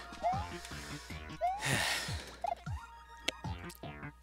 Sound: breathing

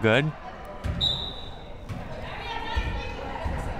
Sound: whistle

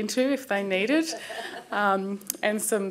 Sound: laughter

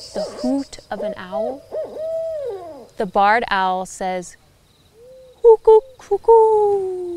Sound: sound: whoo-hoo, whoo-hoo

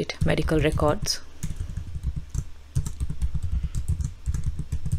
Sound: keyboard clacking

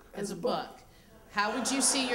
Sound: laughter

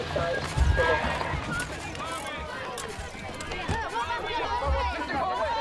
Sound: reporters yelling

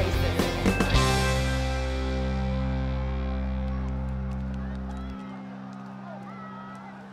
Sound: crowd cheering

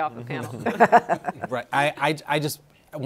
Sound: all chuckling

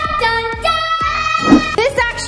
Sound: shouting

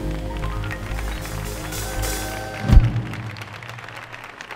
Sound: audience applauding

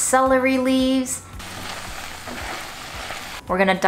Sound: food sizzling

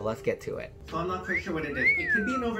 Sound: whistling sound effect

